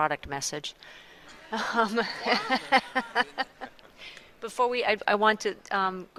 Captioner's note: laughter